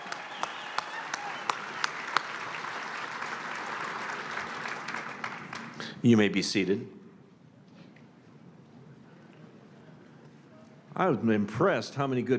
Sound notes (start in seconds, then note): 5.9 applause